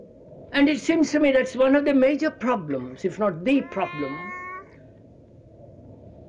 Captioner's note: sound of baby